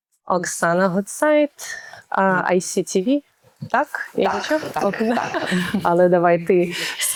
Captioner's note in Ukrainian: сміх